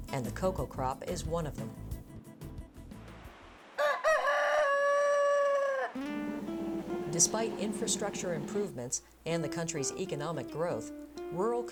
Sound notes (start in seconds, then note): 3.7 rooster crowing